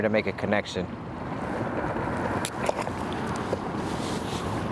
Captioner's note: motor droning